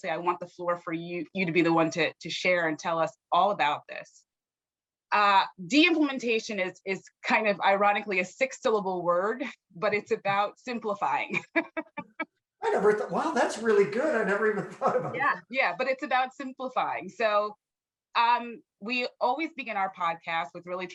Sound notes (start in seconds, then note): 11.1 laughs